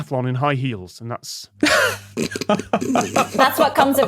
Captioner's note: others snickering